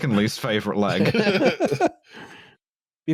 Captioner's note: laughter